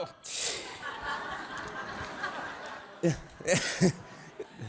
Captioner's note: audience laughing